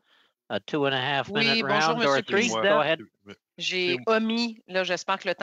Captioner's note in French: voix de l'interprète